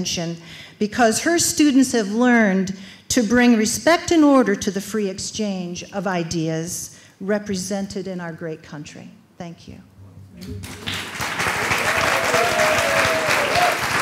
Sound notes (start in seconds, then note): 8.9 applause